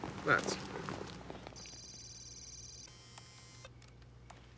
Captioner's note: beeping; insects chirping